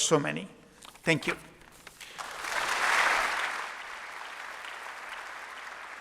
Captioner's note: applause